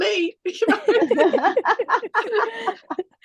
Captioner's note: everyone is laughing